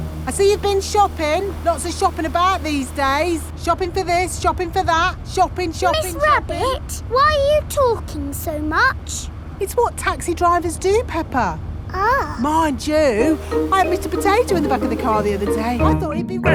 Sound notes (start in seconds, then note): none